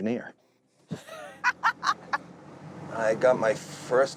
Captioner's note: laughs